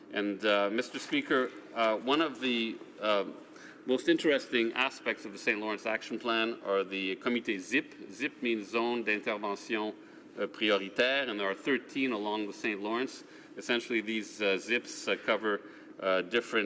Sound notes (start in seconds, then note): 12.8 speaking French